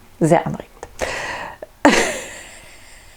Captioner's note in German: lacht